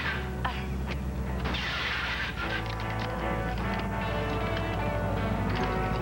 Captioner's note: car starts; starter grinds